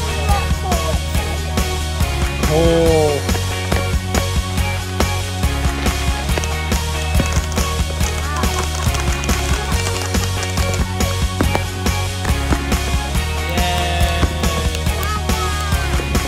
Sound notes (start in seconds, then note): 4.3 fireworks pop and sizzle; 7.3 uplifting music